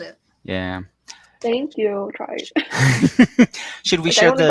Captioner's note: laughs